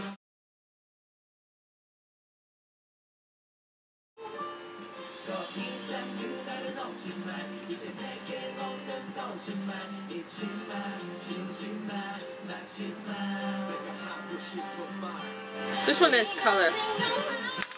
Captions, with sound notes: [background TV noise/music] This one has color.